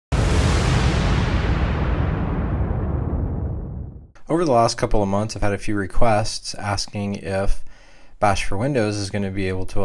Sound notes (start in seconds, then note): 0.1 crash; 4.3 voiceover